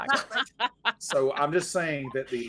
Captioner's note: all laughing